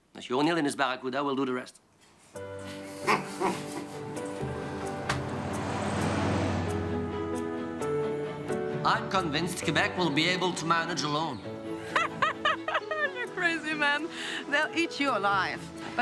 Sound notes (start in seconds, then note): 2.6 bright uplifting music; 2.7 all chuckling; 11.8 laughing